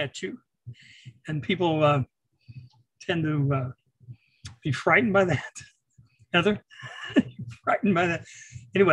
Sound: chuckles

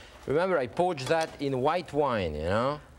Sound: none

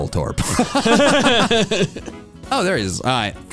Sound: laugh

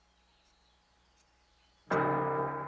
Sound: church bell ringing

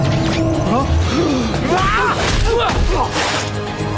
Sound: grunting

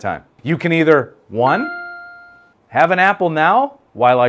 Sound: ding

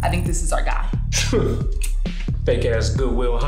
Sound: scoffs

